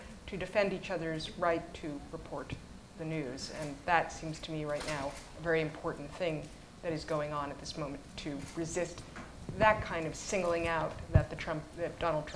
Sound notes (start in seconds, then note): none